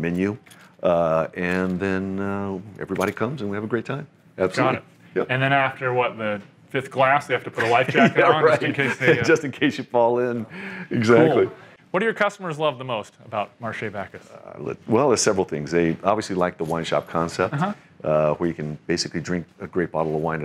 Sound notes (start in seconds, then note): 7.6 laughs